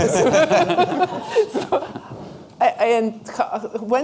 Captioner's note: laughter